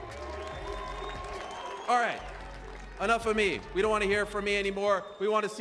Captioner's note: cheers and applause